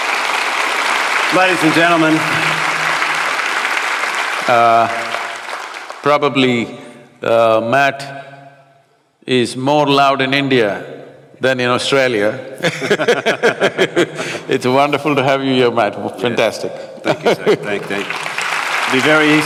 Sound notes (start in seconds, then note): 12.6 both laugh; 17.1 applause